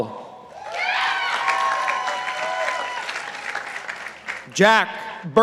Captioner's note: participants applauding